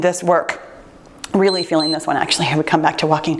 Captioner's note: timer beeps